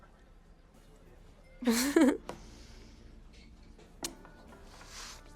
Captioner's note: Yelena laughs